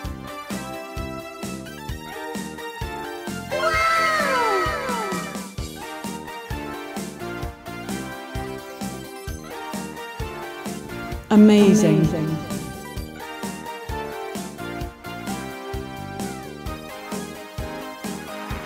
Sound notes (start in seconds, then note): 3.5 audio of an excited kid saying "Wow!"; 5.4 upbeat 90's TV music plays; 11.1 audio of a woman saying "Amazing" with a dry tone as it echos; 13.1 upbeat 90's TV music plays